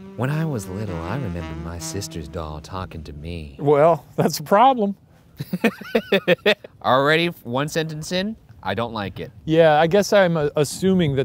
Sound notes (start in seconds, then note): 5.4 laughing